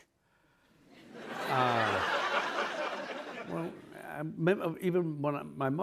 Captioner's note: laughter